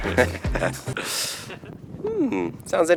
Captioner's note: laughing